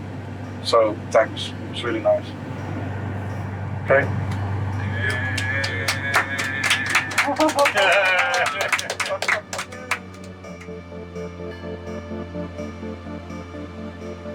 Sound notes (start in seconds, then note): 4.8 applauds; 11.3 sentimental music